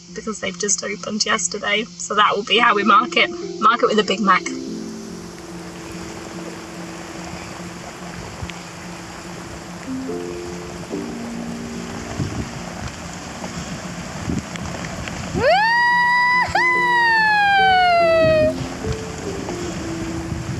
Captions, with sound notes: BECAUSE THEY'VE JUST OPENED YESTERDAY. SO, THAT WILL BE HOW WE MARK IT. MARK IT WITH A BIG MAC. (RAINDROPS PATTER) (THUNDER RUMBLES) WOO-HOO!